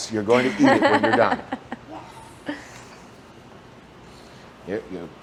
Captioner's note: laughs